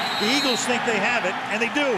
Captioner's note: whistle blows